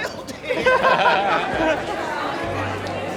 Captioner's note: all laugh